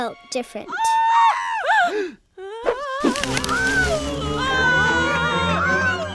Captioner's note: both screaming